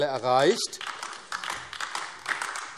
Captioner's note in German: Beifall AfD